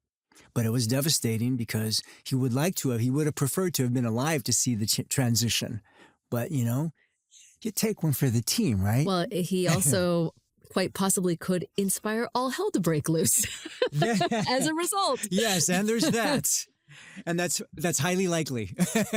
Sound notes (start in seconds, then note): 13.2 laughs; 18.5 laughs